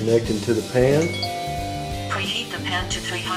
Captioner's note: electronic beep